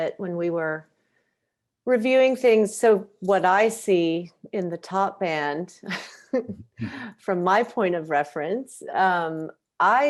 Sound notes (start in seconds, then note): 6.4 chuckles